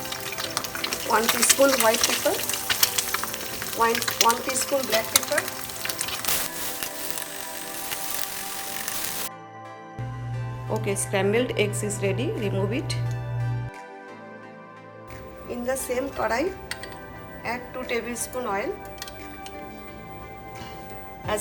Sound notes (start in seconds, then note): 0.2 egg frying sound; 5.8 pan frying sound; 8.8 uplifting music; 19.2 uplifting music